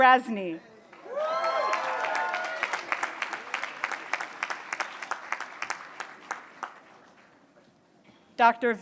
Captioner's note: applause